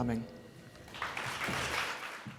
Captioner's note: applause